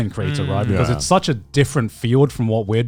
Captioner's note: affirmative murmuring